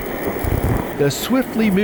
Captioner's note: water roaring